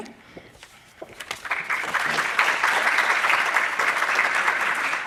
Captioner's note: applause